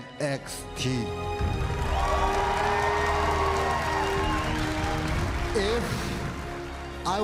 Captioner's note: cheers and applause